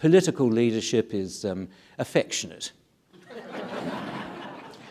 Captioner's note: audience laughing